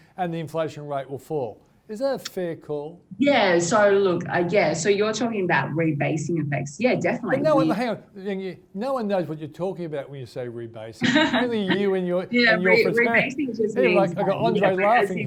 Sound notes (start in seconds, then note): 11.0 laughs